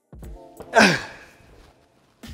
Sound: grunts

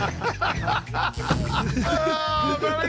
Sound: Murr laughs; buzzer

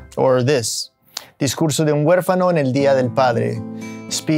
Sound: speaking Spanish

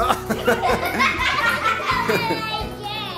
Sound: laughing

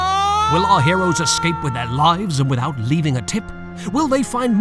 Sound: screams; dramatic Voiceover

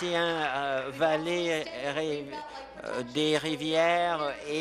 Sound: applause

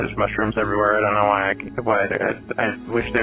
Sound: stutters

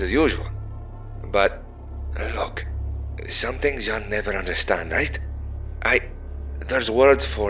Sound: SCP-5994-A lowers its voice

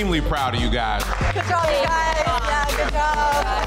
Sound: contestants clapping

